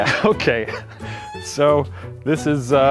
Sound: laughs

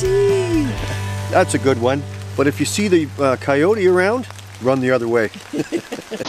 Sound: chuckles

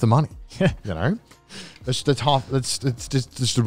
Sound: laughs

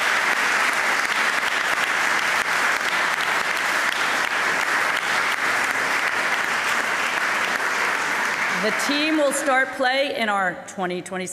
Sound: cheering and APPLAUSE

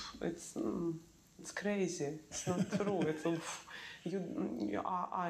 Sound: laughs

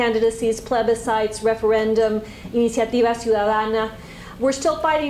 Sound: spanish

